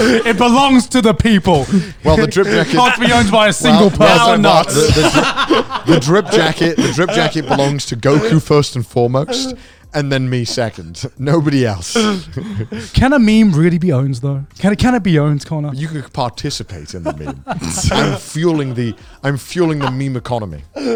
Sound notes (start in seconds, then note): 5.2 laughing